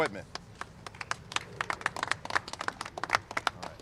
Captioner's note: applause